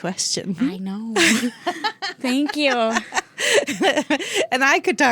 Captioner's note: both laughing